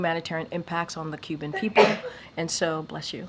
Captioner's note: A reporter sneezes